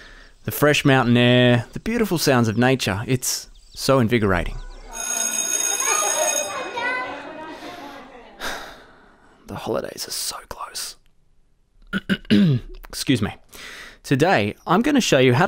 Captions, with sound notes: The fresh mountain air, the beautiful sounds of nature. It's so invigorating. [Bell rings abruptly, children chattering] [Sighs] The holidays are so close. [Clears throat] Excuse me. Today, I’m going to show you how